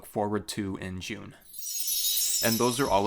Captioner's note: chime